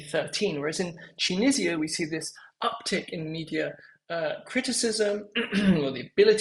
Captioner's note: cough